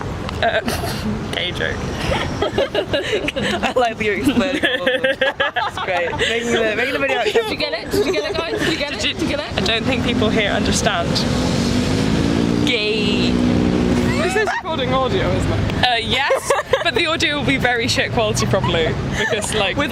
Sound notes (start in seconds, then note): 1.7 all laugh; 1.9 snickers; 4.5 laugh; 16.6 laughs